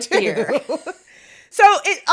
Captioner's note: both laughing